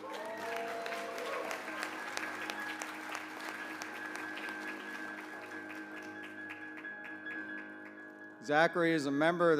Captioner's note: applause